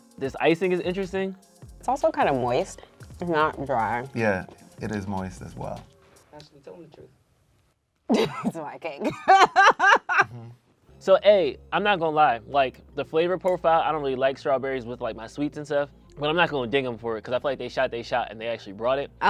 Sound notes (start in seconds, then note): 9.0 laughing